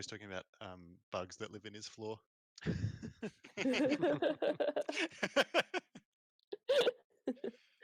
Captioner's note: laughter